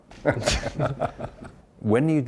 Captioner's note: laughs